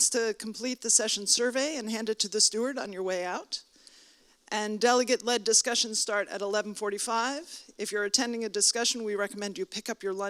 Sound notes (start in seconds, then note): none